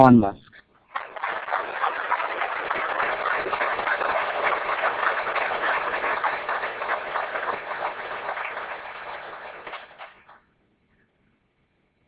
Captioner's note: applauses